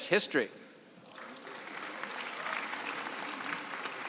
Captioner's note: applause